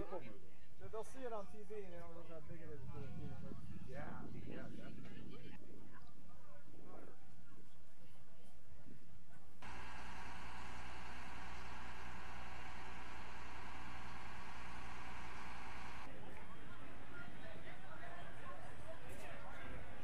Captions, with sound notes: - Yeah most people, they'll see it on TV, and they don't realize how big it is in person. - Yeah, yeah, definitely. (crane cranking) (crowd chattering)